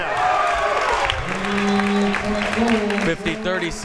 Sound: crowd members cheering

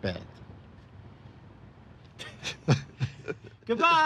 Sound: laughing

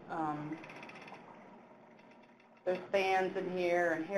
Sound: animal croaking

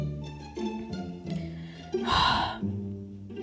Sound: Nightmare Freddy Sighs

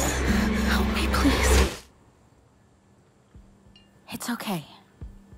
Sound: quick heavy breathing; loud whooshing

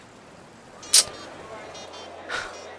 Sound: sighs

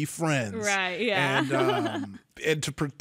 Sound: laughs quickly

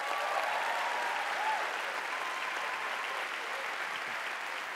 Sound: applause

